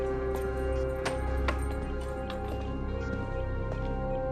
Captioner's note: key clatters